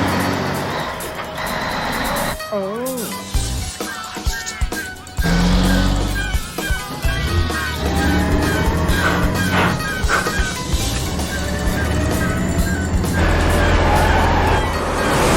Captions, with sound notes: - OH. - JESUS CHRIST. ( gears grinding )